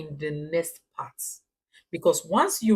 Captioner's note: paause